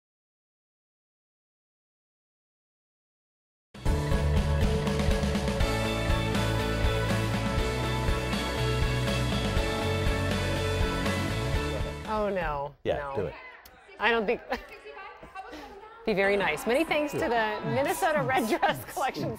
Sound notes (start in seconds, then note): 12.7 voiceover; 15.1 chuckles